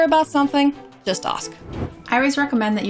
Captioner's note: air whooshing